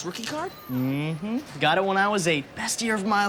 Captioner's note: none